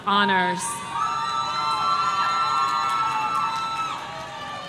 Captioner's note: audience cheering